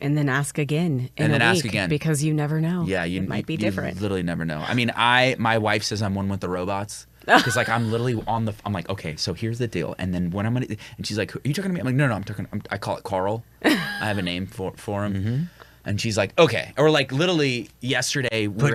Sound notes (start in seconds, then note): 13.6 chuckles